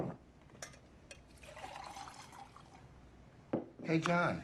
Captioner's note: water pouring